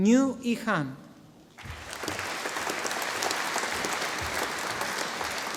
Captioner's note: audience applauding